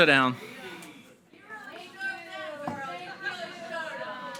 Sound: audience chattering

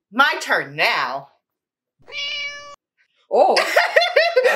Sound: meow

